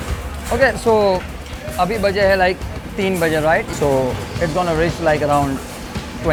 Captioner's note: speaks in foreign language